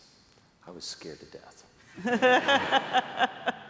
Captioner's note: laughter